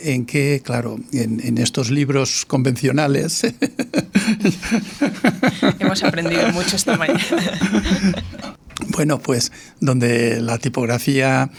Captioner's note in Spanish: risas